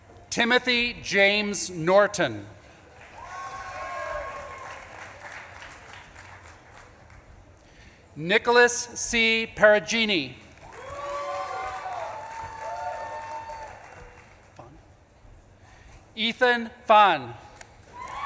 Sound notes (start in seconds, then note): 2.8 audience claps and cheers; 10.5 audience claps and cheers